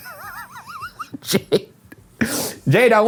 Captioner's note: laughs